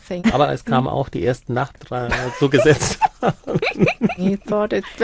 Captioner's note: speaking German